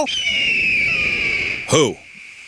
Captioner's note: whistle blows